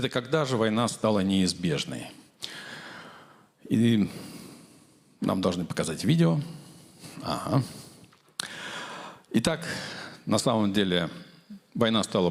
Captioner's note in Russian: тяжело вздыхает